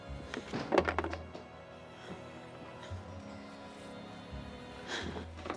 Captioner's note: wood clattering